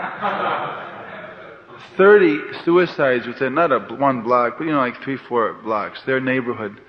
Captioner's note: laughter